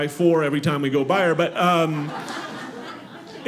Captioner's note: audience laughing